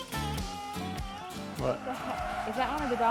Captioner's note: dogs barking